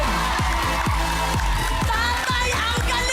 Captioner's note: applause, cheering